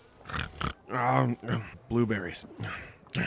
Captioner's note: dreaming groans and snores